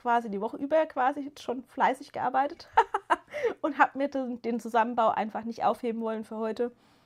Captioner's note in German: gelächter